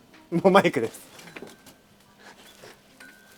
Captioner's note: laughs